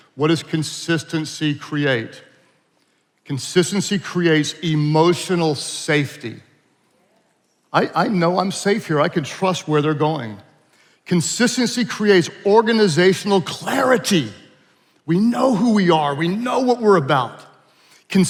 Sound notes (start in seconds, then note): none